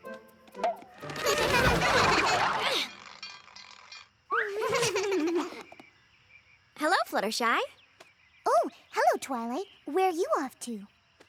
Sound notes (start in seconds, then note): 1.2 whirl!; 1.2 laughter; 2.8 rattle!; 4.5 laughter